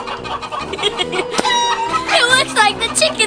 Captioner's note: laughs